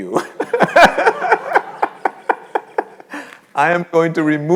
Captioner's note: all laughing